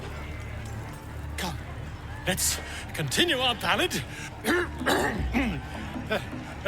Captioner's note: clears throat